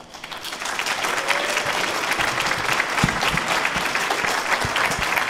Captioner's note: audience applauding